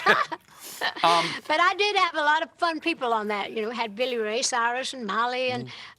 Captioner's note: laughter